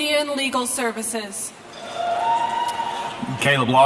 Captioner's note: speaks in Natve America